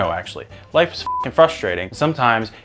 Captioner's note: beep